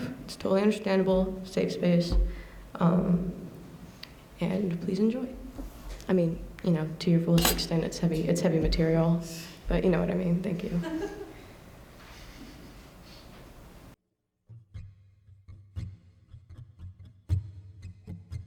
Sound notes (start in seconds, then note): 10.7 laughter